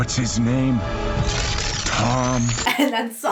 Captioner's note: electricity crackles